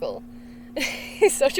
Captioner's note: laughs